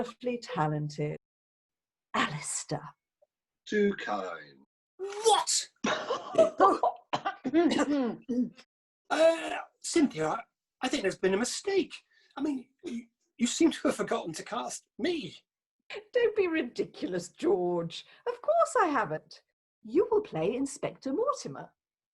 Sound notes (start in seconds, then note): 5.9 the others burst out laughing